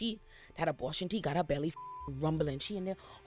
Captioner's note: beep